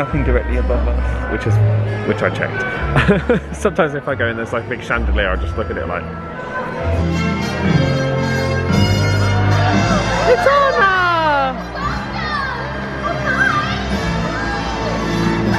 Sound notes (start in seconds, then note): 2.8 laughs; 8.1 upbeat music